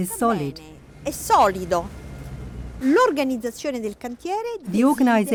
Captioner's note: speaking in foreign language